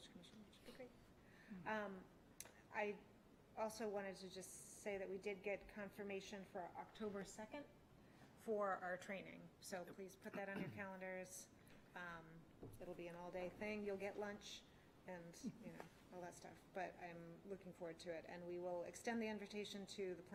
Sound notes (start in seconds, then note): 10.3 clears throat